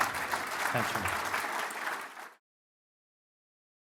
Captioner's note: applause